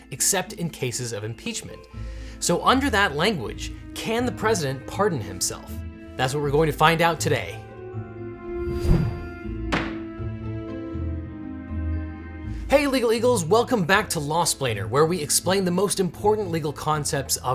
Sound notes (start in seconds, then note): 7.5 magical music; 9.6 gavel bangs